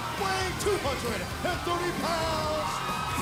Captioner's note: crowd cheering